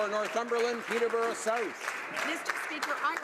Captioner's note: some Applause